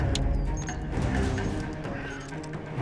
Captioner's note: beeping